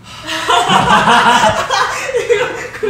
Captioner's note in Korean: 웃음